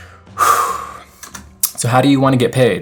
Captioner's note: sighs